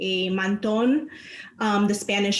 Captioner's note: speaking in foreign language